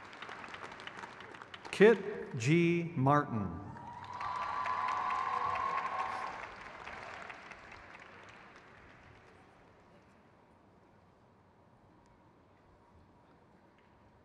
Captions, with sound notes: Derek E Bowman. (crowd cheers)